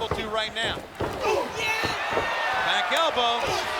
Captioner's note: Nash grunting